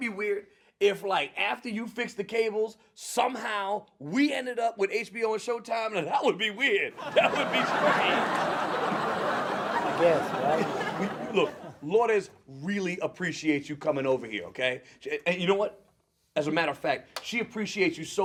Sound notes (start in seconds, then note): 6.9 audience laughs